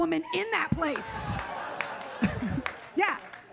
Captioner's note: audience laughs